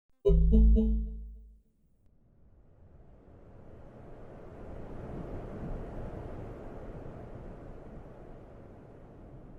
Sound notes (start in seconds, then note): 0.2 soft tones; 2.6 wind whistling